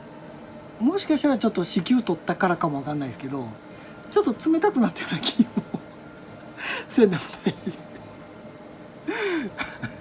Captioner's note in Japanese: 笑い